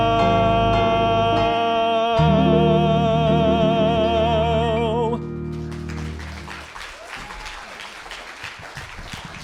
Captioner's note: applause